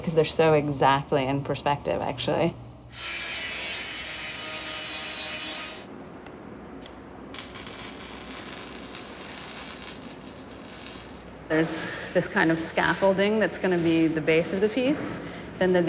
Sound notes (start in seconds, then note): 2.9 grinder buzzes; 7.2 welding torch crackling